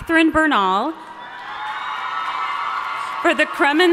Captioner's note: audience cheering and applauding